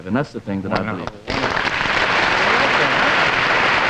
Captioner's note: audience applauding